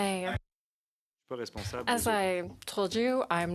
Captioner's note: speaking in French